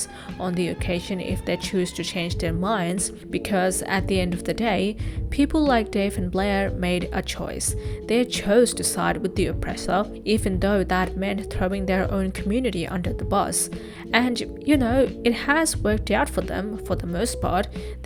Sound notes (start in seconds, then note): none